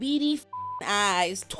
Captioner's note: beep